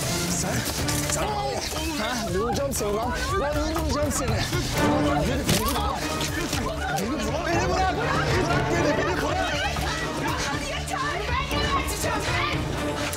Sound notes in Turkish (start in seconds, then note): 8.6 Bağrışma sesleri